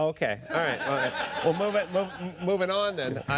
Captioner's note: laughter